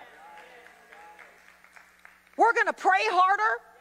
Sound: audience applauding

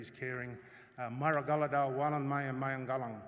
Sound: non-english speech

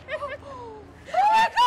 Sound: laughter

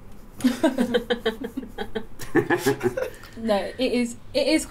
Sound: laughter

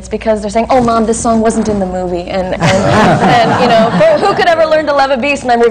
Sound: laughter

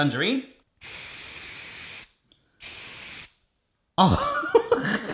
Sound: loud spraying; chortle

